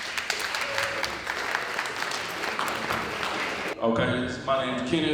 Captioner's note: applause